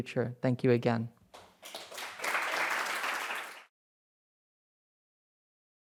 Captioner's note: applause